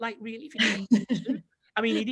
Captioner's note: laughs